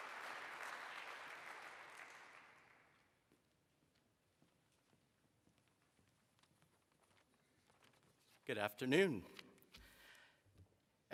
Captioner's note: applause